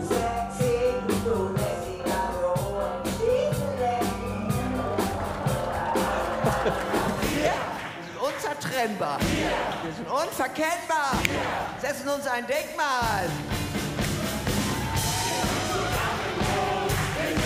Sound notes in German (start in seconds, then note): 4.1 Jubel, Applaus; 6.0 Michael Steinbrecher lacht